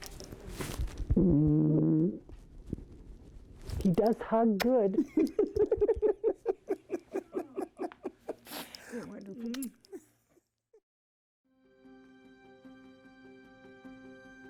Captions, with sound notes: He does hug good. (laughs) (mellow music)